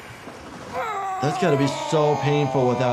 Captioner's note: Steve-O groans